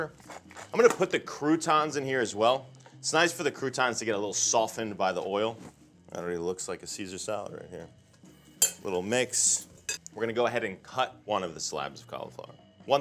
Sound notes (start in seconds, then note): 8.6 utensils clinking